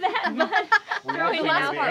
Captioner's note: group laughing